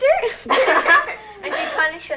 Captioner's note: giggling